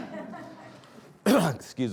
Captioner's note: audience laughing